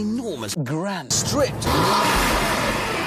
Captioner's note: aggressive revving